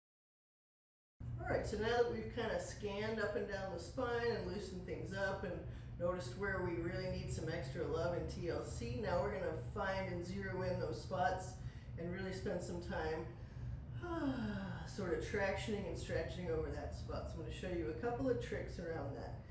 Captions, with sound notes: All right so now that we've kind of scanned up and down the spine and loosened things up and noticed where we really need some extra love and TLC, now we're gonna find in zero in those spots and really spend some time, (sighs) sort of tractioning and stretching over that spot. So I'm gonna show you a couple of tricks around that.